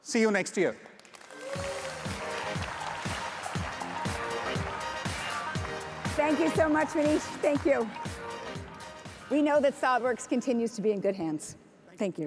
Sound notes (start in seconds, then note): 0.9 audience applauds; 1.5 exciting upbeat music